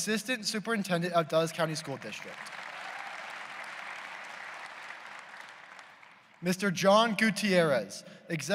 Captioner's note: applause